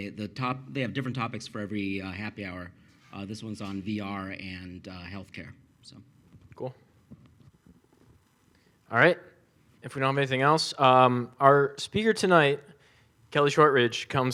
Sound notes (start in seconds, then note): none